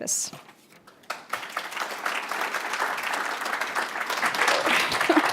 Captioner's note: applause